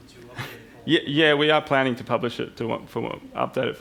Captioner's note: chuckles